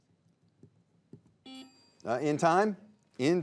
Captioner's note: bell dinging; buzzer beeping